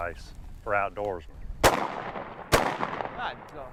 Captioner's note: gun shots